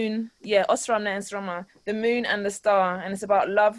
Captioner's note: in foreign language